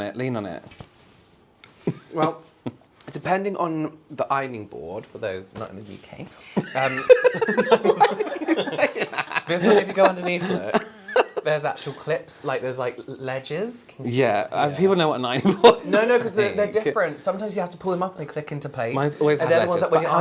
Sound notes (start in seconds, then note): 6.7 strained Cackle